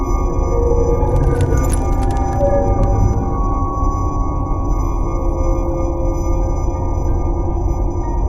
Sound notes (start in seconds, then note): 1.0 glass crunching